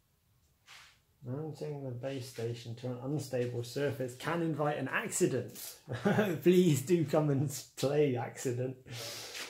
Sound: laughs

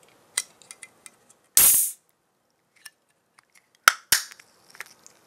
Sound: opens can of soda

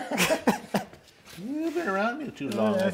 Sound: both laugh

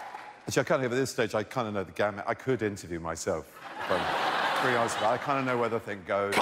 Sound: cheers and applause

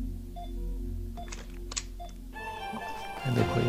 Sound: door opens

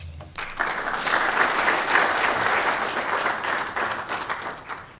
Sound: applause

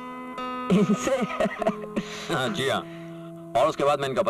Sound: laughs

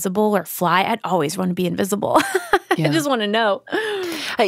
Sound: laughs

